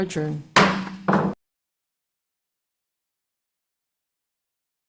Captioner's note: gavel thumps